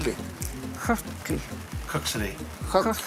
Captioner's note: non-english